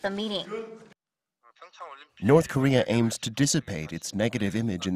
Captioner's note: Korean